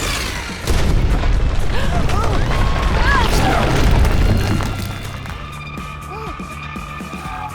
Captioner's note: mud rumbling; hikers gasping; upbeat music